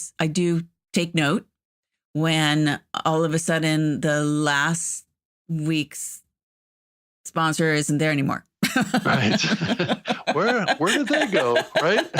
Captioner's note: laughter